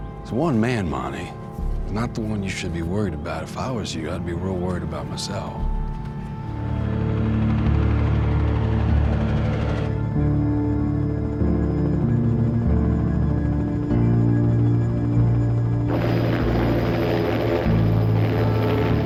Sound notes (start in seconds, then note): 6.1 propellors whirring; 7.0 melancholy music